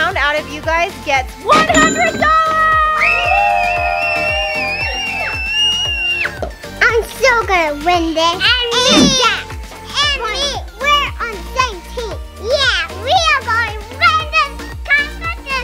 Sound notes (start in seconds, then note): 1.6 cash register rings; 2.9 everyone screams